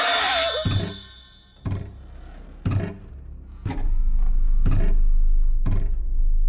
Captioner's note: sudden screeching music; soft tense music; object thudding rhythmically